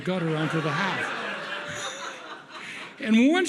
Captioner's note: audience laughs